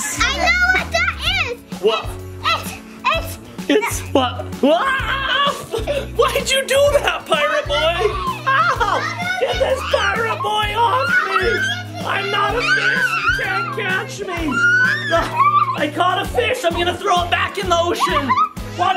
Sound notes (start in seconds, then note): 4.6 screams